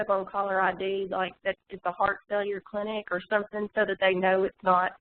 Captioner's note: audio warps